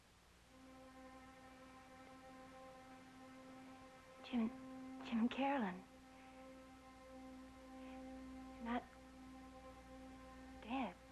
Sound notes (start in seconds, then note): none